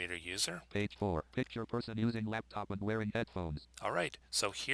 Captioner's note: synthesized speech